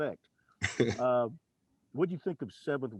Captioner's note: Coach laughing